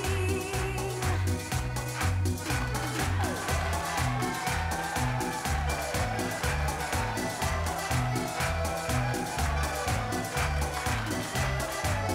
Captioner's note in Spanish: palmadas al compás